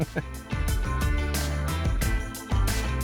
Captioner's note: laughing; upbeat music